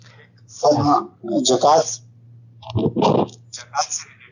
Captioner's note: distorted Sound